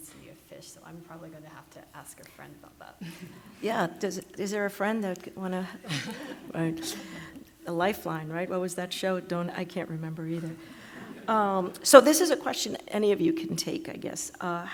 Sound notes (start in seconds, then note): 5.2 laughs